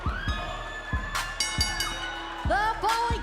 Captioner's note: bell ringing